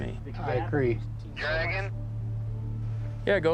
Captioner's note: over walkie